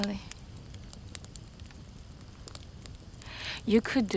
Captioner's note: fire crackling